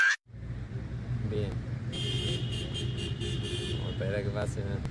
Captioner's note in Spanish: sonido de bocinas